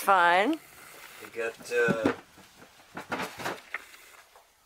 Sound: boxes clattering

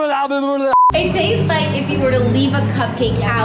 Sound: beep

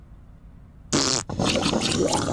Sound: fart

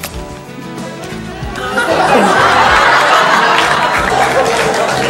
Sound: audience laughs

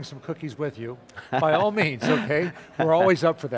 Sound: laughs

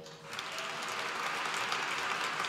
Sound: applause

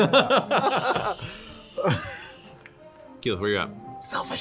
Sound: laughs

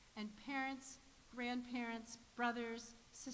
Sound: none

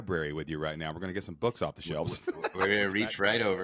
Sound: chuckling

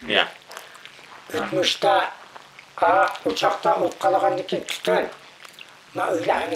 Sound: speaks in foreign language

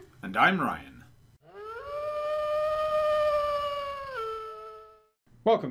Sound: distant wolf howl

